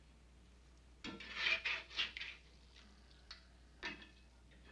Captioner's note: spatula scraping